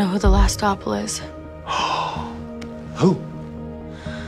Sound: gasp

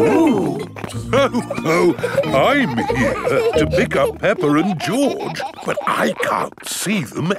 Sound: laughs

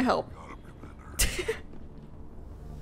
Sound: laughs

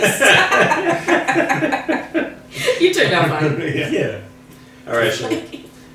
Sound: laughing

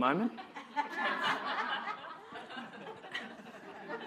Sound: audience laughing

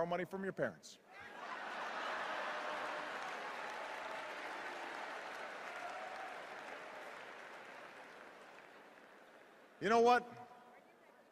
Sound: laughter, applause, boos

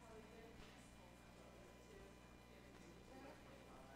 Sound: talking quietly

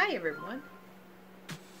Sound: loud phone chirp

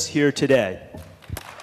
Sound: applause

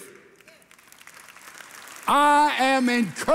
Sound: congregation applauding

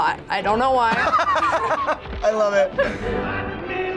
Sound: both laugh

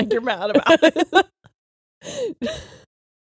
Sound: both laughing

